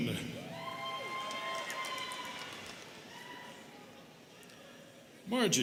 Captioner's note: students cheering and clapping